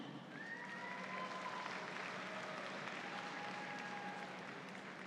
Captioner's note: audience applauds